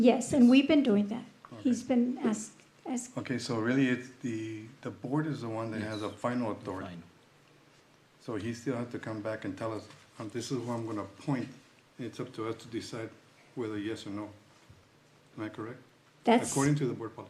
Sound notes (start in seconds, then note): 9.3 clears throat